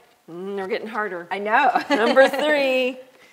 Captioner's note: chuckles